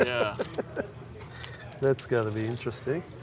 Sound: laughing

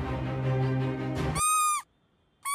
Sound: sqeaky shoes squeak

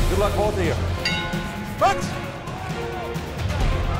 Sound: bell dings

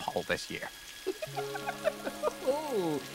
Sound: chuckling

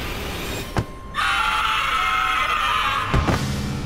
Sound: screaming

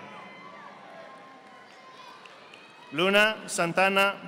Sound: audience applauding

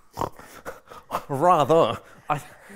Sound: grunts

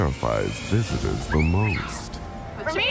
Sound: screams

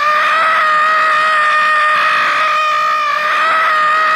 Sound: screaming

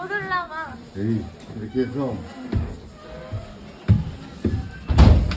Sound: none

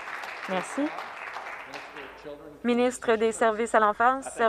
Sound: some Applause

